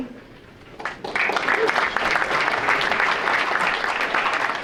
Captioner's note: audience applauding